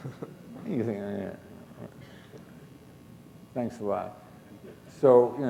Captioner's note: chuckle